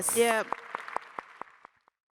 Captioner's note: applause